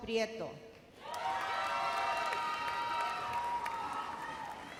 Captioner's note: explosive cheering